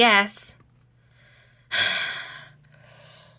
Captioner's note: Hades sighs once more